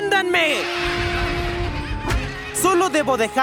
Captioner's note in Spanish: Zumbaados de oveja